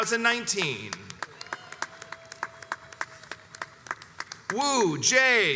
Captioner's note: crowds cheers and applauds